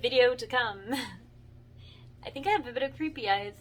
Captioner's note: giggles